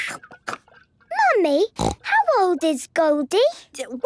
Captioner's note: snorting